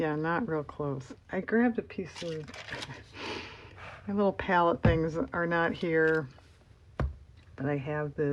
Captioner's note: laughs